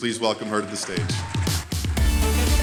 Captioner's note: audience cheerful and applauding; upbeat cheerful music